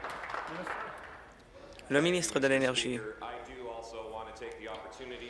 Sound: applause

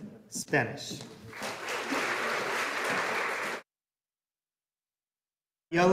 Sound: audience applauding

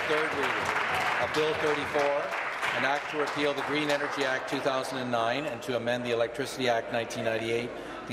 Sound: applause

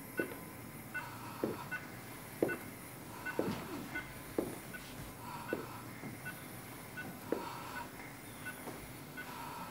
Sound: ventilator beeping

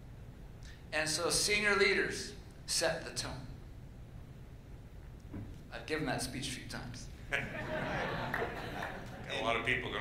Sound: laughter

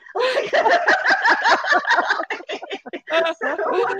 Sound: both laugh

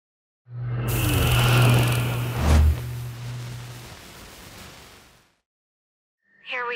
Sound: logo sizzling in anticipation

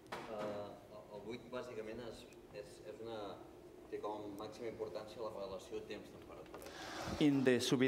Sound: speaking catalan

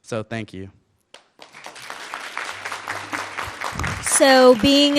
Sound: audience clapping

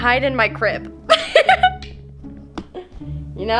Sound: laughing

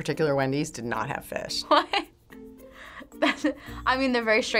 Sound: laughing

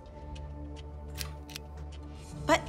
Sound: light clicks

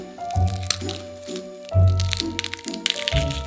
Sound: garlic paper rustling

